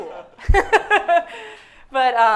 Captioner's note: heavy laughter